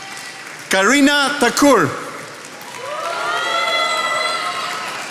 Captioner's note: attendees applauding